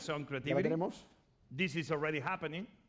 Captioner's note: speaking spanish